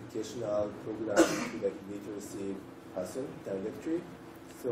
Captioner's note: cough